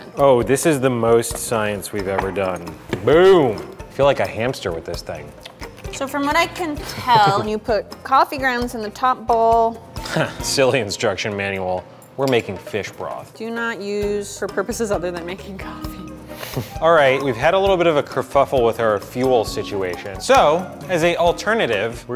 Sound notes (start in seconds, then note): 10.2 scoffs